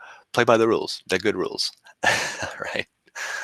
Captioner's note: laughing